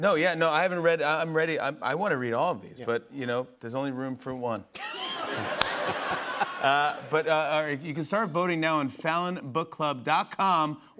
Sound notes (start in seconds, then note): 4.8 laughter